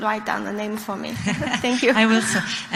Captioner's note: woman laughs